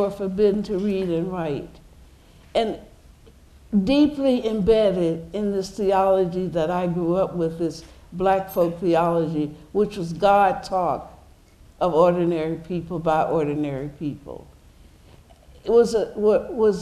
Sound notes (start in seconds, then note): none